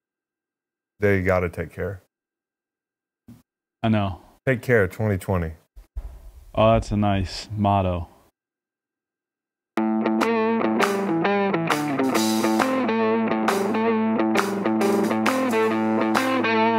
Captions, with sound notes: - They gotta take care. - I know. - Take care, 2020. - Oh, that's a nice motto. (blues rock music) (clapping)